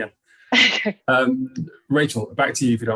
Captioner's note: chuckles